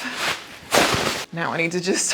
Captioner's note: bag rustling